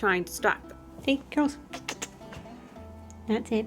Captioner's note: kissing noises